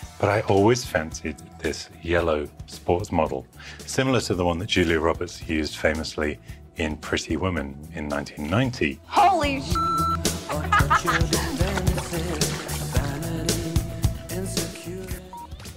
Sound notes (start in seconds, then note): 9.6 beep; 10.4 laughs